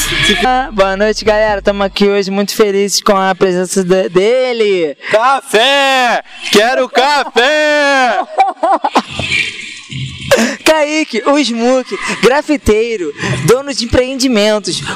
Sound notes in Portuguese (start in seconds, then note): 8.5 risos